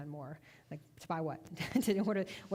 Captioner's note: chuckling